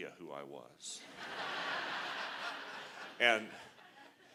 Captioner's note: laughter